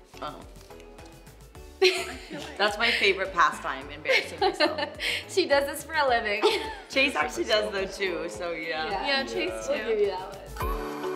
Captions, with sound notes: - Oh. That's my favorite pastime, embarrassing myself. (laughing) - She does this for a living. - Chase actually does though too, so yeah. - Yeah Chase too. - We'll give you that one.